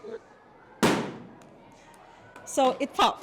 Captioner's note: balloon bursting